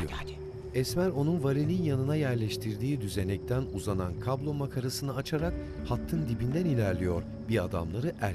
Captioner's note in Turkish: Cır cır böceği sesi; Müzik - Gerilim